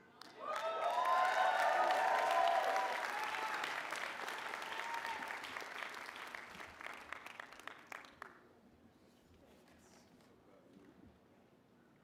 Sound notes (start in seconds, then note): 0.1 applause